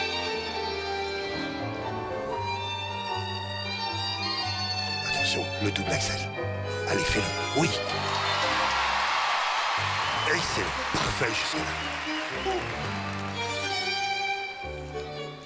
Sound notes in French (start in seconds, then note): 7.8 acclamations